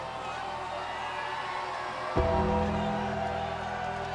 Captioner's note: ominous music continues; audience cheers